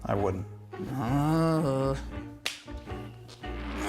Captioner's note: groans